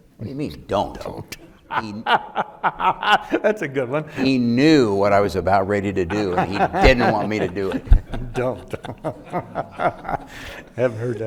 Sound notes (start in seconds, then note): 1.6 laughing; 8.9 laughing